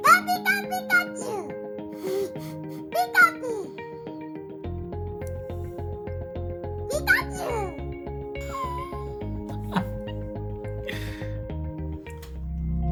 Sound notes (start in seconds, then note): 9.4 laughs